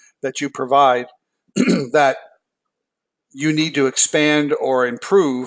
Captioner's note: cough